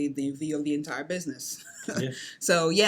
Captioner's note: laughs